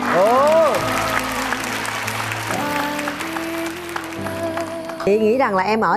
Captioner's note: cheering